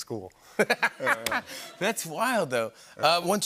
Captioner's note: laughter